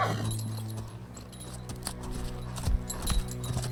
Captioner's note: horse whinnies